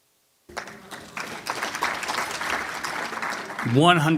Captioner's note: applause